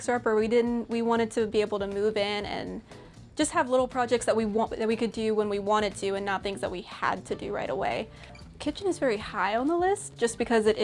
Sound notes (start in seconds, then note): none